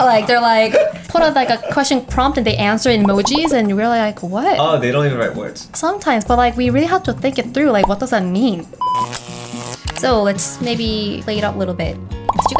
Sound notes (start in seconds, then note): 7.8 buzzing